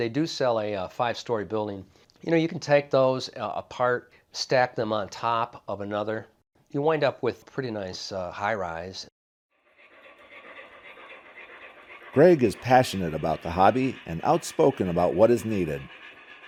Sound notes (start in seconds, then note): 12.2 voiceover